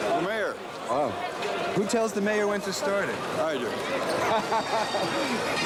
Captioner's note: laughing; bagpipe music